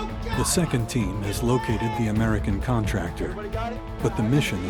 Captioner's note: voiceover